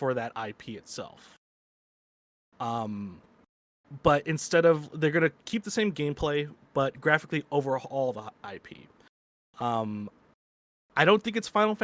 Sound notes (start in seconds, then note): none